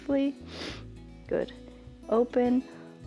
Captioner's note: inhales